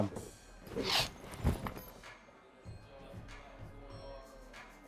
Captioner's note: gangster snorts